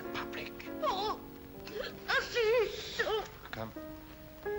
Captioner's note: whimpers loudly